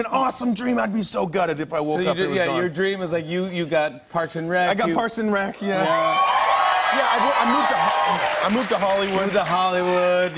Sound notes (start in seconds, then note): 5.8 cheers and applause